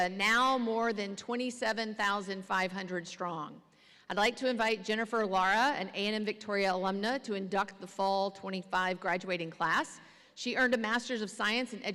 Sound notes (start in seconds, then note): none